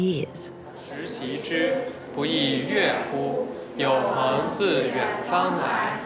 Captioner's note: hablan un idioma extranjero